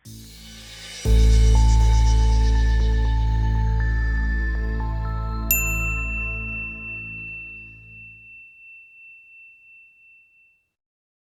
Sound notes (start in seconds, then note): 0.0 futuristic music; 5.7 bell rings